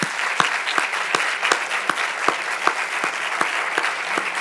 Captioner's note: audience clapping